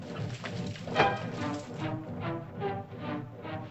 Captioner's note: hooves softly pounding; whack; suspenseful music